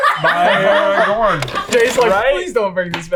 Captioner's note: laughing